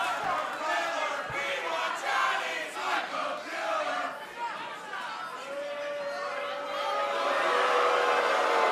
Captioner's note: fans chanting